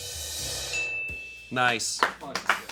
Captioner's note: bell dings; crew clapping